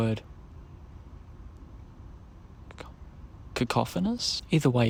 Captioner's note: whispering to self